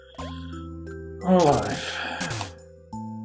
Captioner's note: sighing